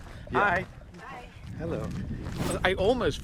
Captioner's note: woman's Voice